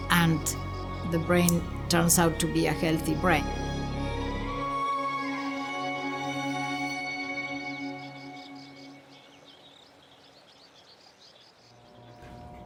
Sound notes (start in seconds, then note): 4.4 birds chirping; 4.4 calming music